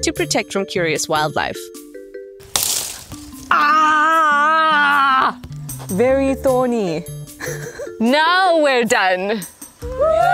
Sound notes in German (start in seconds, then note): 7.4 lacht